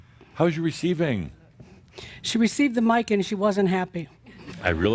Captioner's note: some chuckles